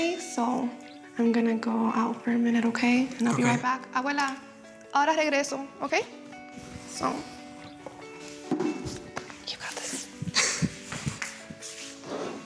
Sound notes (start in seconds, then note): 4.3 speaking Spanish